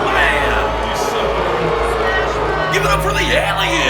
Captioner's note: crowd boos